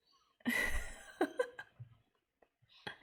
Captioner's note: laughs